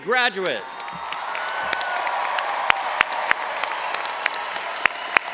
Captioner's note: all applauding and cheering